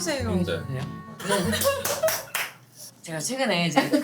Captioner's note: laughing